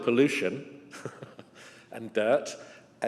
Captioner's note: chuckles